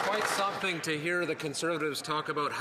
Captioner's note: some Applause